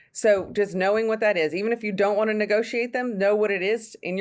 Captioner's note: none